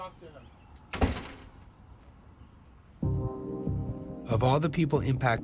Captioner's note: door slamming